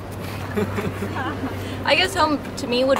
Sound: laughs

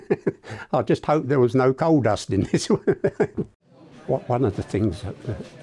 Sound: laughs; laughs

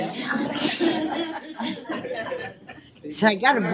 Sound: laughter

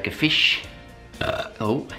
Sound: burps

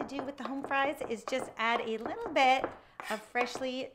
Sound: knife tapping

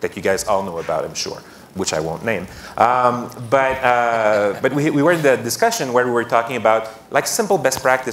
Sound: laughter

